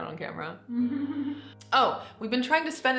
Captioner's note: chuckles